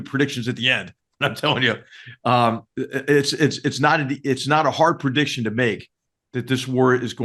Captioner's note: laugh